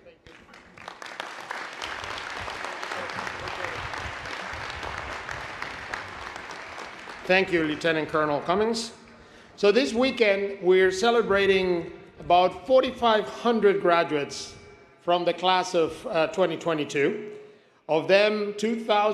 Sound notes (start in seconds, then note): 4.5 applause